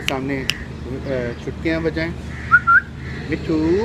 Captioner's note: whistling